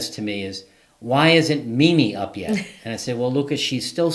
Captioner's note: laughing